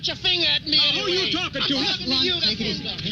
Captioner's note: men shouting